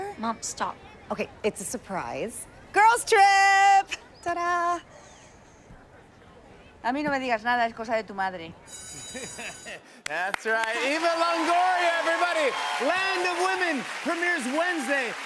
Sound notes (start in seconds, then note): 8.7 school bell rings; 9.0 laughs